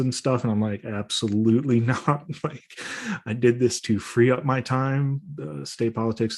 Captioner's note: chuckles